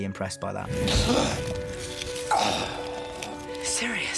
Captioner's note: gasps and grunts